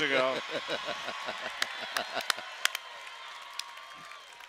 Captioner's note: cheering